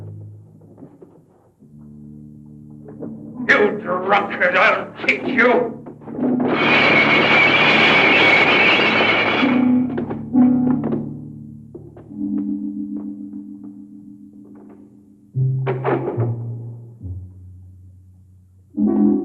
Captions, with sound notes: You drunkard, I'll teach you! (bottles smashing)